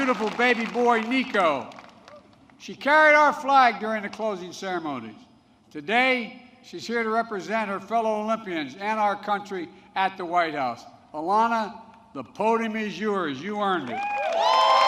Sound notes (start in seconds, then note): 2.9 applause